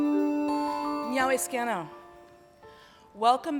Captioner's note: speaking in another language